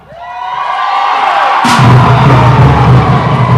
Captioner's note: non-english speech; cheering